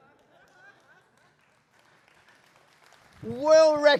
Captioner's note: laughter; applause